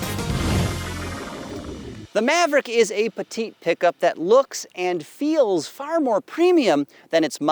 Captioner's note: electronic trilling